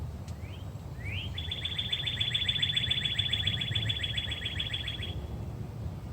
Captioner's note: birdsong